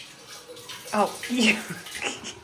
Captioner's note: laughing